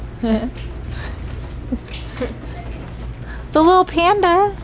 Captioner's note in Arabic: ضحكة مكتومة